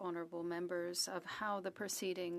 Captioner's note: speaking French